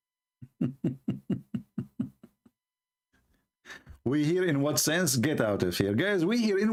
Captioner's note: Ketawa